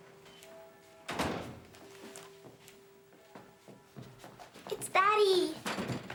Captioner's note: door closing